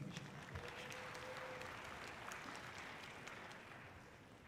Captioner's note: audience clapping loudly